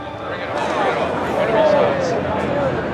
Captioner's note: crowd chatter